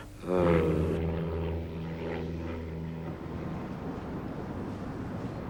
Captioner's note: airplane engine whirring; traffic bustling; vehicles honking